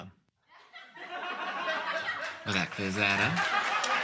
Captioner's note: more audience laughter